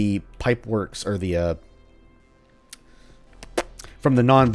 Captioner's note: thinking noises